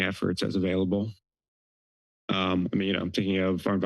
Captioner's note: pause